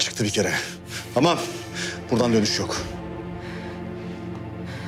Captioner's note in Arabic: أنفاس افنان